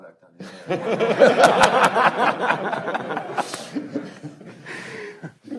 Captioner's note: panelists laughing